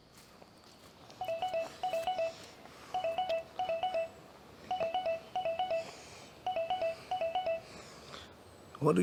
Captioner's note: phone rings